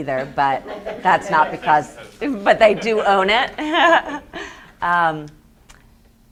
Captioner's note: laughs